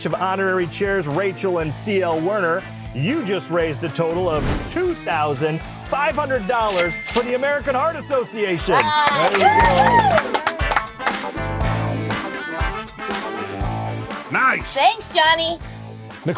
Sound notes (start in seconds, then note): 8.8 applause